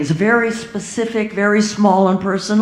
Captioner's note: none